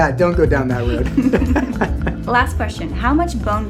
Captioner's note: both laughing